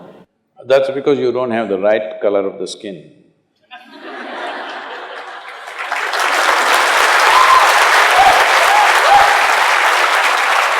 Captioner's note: laughter/Applause/Cheers